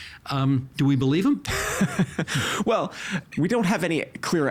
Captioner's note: laughing